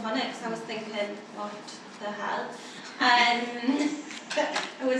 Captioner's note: laughter